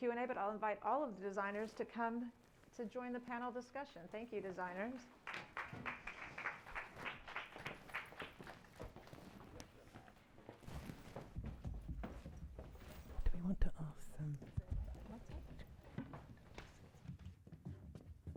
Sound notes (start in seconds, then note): 5.1 audience applauding; 10.8 footsteps pattering